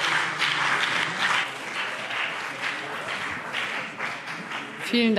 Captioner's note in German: Beifall BÜNDNIS 90/DIE GRÜNEN und CDU